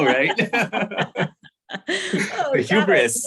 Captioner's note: laughter